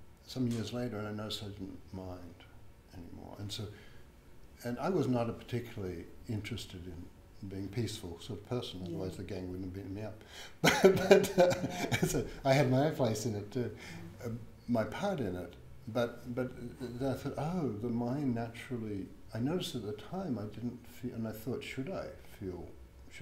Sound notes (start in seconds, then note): 10.6 laughs